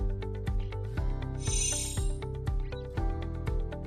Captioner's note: chiming